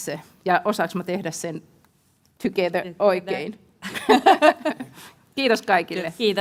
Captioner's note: laughter